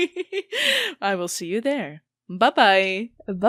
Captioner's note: laughing